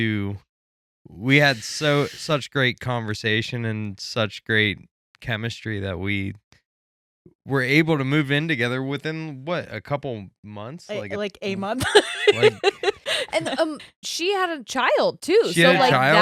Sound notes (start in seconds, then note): 11.5 laughing